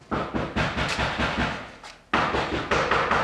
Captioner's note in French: On toque à la porte